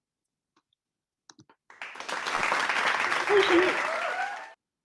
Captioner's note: audience applauds